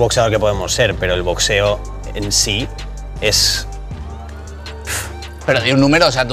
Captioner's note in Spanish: resopla